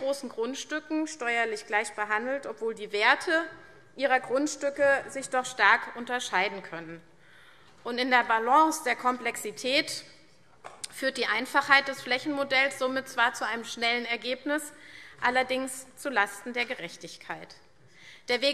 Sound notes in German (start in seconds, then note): none